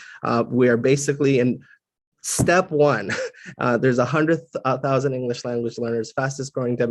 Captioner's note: laugh